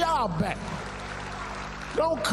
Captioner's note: applause